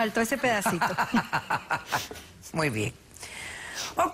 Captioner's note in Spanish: risas